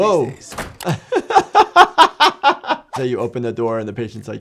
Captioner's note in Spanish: se ríe